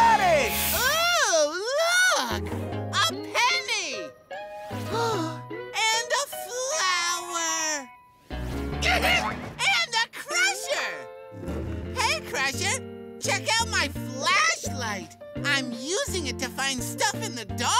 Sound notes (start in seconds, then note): 4.5 gasps